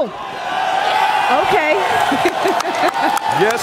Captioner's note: audience cheering; laughs